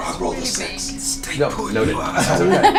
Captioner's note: whispers